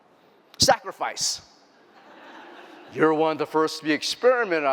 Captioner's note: laughter